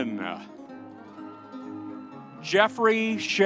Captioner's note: audience cheering